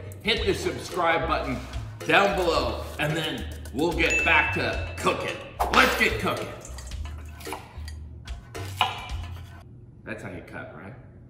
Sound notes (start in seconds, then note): 5.7 whip cracking; 7.2 cheerful music